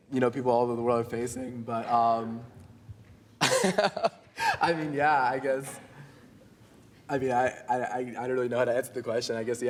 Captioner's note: laughs